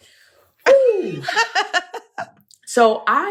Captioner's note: laughs